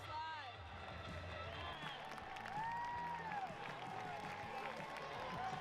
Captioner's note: crowd cheering